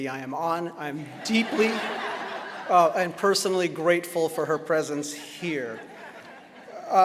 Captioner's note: laughter